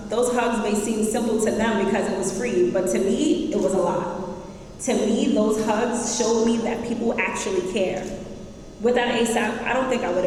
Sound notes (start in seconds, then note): none